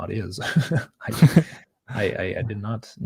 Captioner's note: giggles